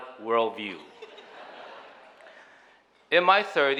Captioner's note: audience chuckling